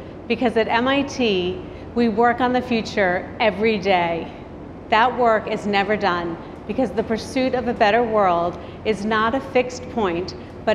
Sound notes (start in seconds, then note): none